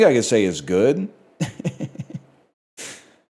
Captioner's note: chuckles